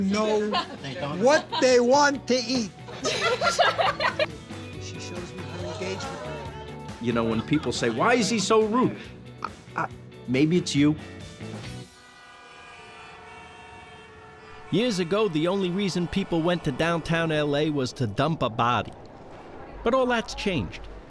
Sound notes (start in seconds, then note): 2.8 laughter; 11.8 horns honking